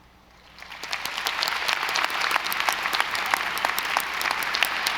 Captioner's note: audience applauding